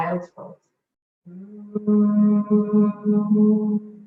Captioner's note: humming